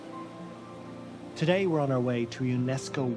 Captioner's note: voice-over